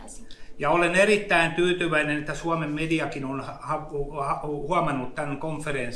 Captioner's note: speaks in Finnish language